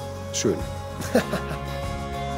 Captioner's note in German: Er lacht